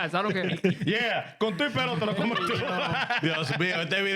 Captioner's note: speaking In Foreign Language